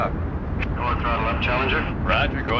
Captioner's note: man On Radio